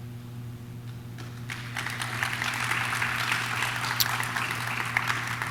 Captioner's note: audience claps